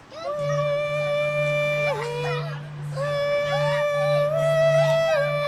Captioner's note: screaming and crying